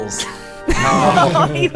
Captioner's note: laughter; immediately laughs